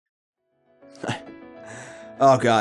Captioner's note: laughs